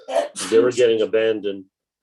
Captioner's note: sneeze